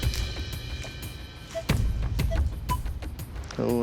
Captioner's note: beeping